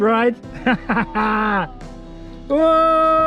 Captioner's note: laughs